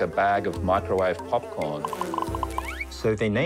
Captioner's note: mosquito buzzing, corn popping